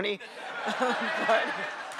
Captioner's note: laughter